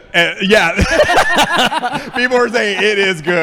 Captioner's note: laughing